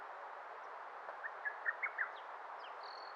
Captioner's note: birds chirping